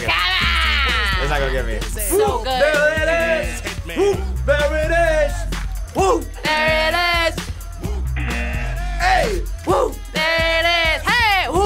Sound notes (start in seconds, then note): 3.3 buzzer; 8.2 buzzer